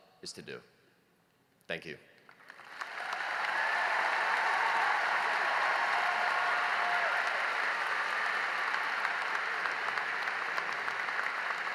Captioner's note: cheering and applause